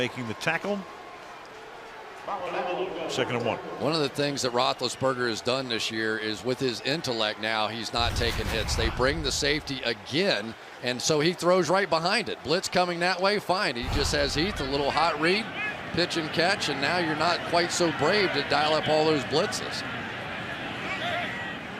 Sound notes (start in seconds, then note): 2.9 pa announcement